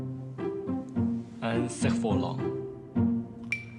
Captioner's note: French